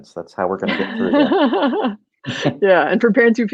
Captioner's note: laughing